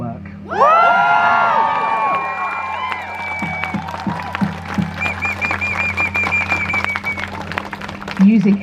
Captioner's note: crowd cheers